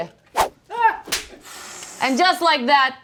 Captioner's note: screaming